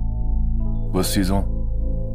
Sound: French

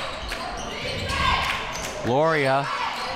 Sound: crowd

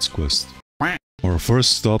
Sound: quack

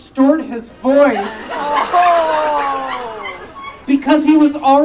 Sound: audience Laughing

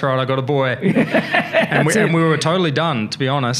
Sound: laughs

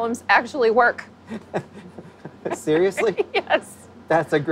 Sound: laughs

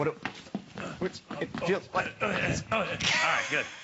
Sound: laughter

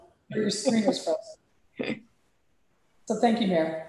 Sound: laughing

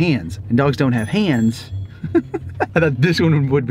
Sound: laughs

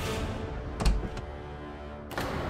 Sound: door opens

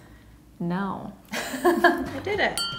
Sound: laughs

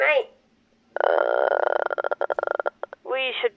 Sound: death sounds probably

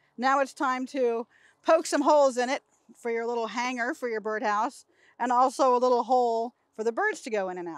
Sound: none

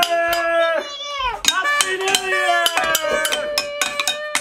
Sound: spoons banging on pots

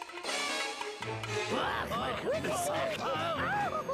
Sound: screaming; howling

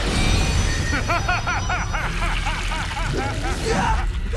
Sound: laughing

